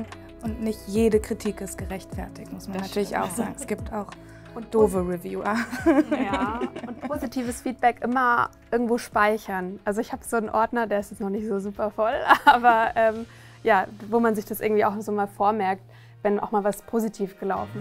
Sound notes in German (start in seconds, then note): 5.6 lachen